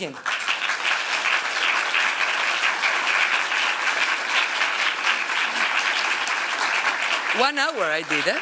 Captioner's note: applause